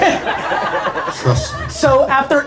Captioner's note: laughs